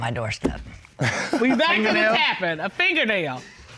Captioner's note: laughs